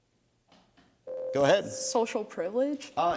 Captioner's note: ding